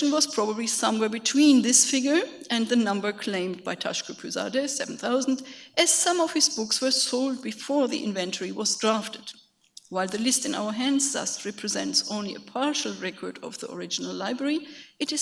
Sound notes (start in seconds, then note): 3.8 speaks in a foreign language